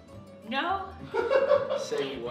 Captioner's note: laughter